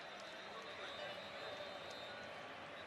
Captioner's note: whistle